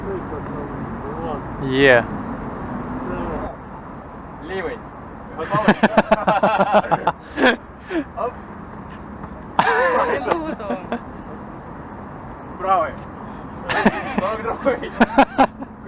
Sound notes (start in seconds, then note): 5.4 laughter